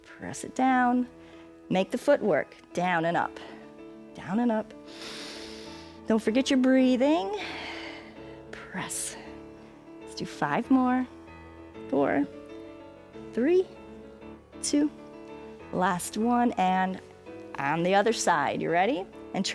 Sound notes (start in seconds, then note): 4.8 inhales